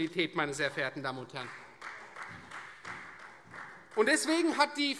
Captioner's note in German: Beifall Freie Demokraten